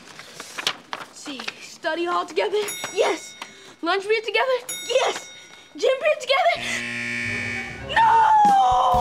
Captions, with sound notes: See, study hall together, yes. Lunch, we have together, yes. Gym, together- [buzzer sounding] No.